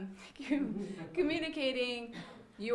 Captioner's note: audience laughing